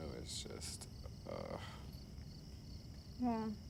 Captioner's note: groans